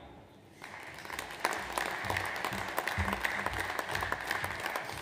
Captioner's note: audience applauds